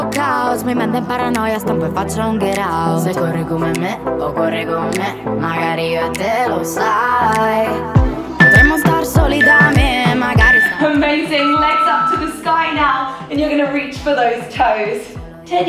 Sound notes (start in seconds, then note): 8.4 timer beeping